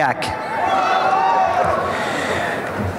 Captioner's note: applause and cheering